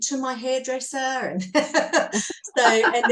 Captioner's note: all are laughing